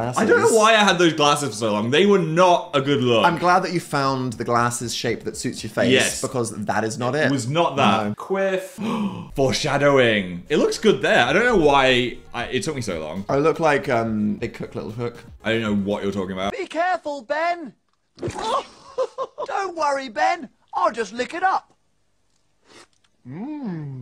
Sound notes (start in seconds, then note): 8.8 gasps; 18.7 shouts